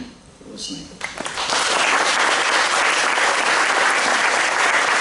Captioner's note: applause